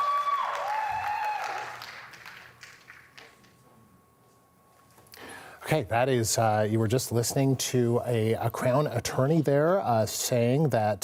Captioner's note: applause